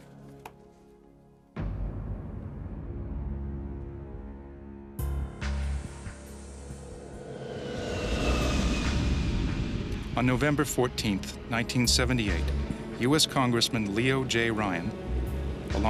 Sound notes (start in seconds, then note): 10.4 voiceover